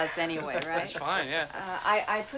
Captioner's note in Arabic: ضحك خافت